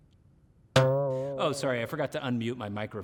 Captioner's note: spring boings